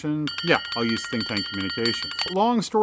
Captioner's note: bell ringing